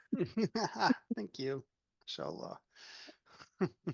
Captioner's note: shared laughter